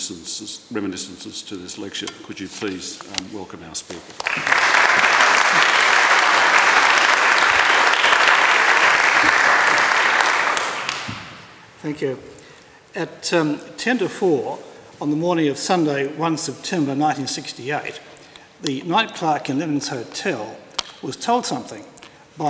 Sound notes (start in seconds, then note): 4.2 applause